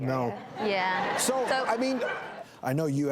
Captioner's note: audience laughs